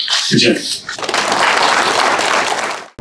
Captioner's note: audience applauds; upbeat music plays